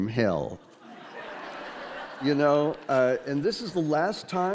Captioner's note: audience laughing